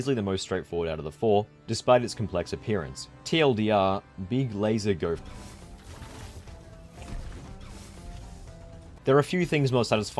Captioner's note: laser sound